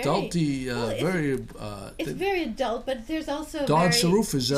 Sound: voiceover

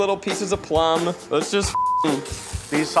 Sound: beep

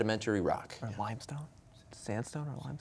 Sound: quietly

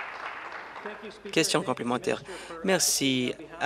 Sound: applause

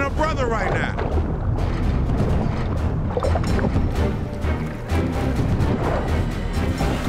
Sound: dramatic music; water gurgling

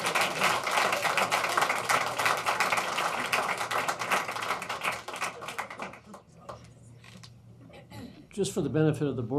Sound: applause

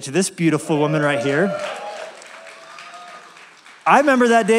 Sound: applause

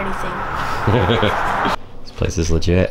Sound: laughs

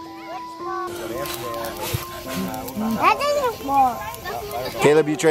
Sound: blowing

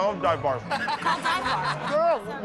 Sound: laughter

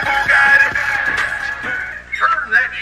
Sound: audible Knock

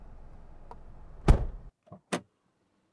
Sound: door Thud

